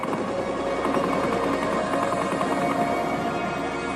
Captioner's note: guns blasting